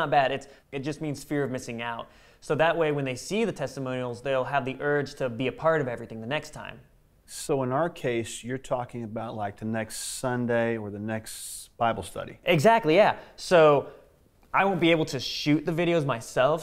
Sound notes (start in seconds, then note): none